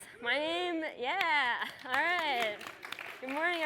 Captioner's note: applause